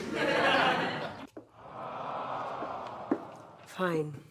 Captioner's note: audience laughs; audience awwing